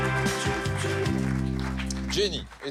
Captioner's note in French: applaudissements